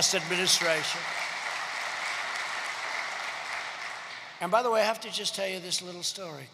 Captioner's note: applause